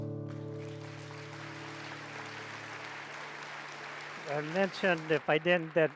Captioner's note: audience applauds